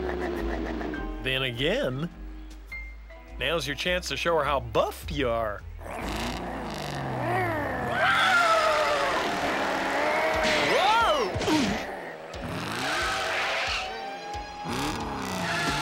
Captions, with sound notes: Then again... Now's your chance to show her how buff you are. (ENGINE REVVING AND GROWLING) Whoa! (GRUNTS)